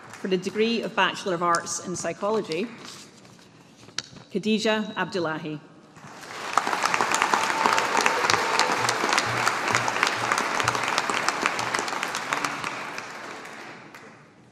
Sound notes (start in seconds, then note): 6.4 audience applauding